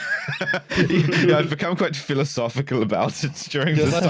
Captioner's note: German accent, laughing